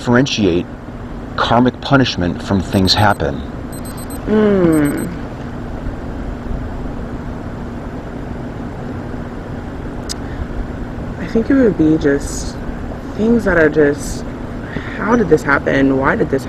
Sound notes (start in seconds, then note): 4.6 timer beeps